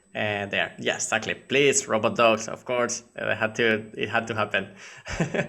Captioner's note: laughing